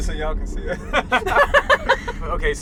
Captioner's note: laughs